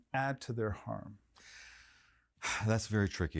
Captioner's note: exhaling